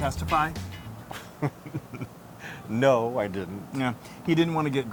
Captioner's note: laugh